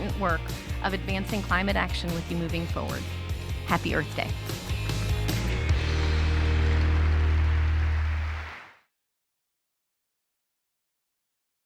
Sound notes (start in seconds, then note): 4.6 crowd clapping; 5.5 upbeat music